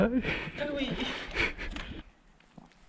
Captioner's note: french